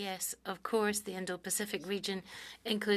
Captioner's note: speaking French